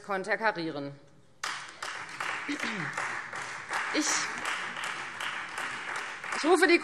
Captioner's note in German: Beifall Freie Demokraten